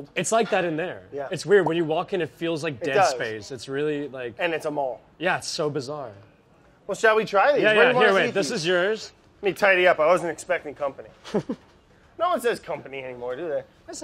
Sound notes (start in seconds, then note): 11.2 laughs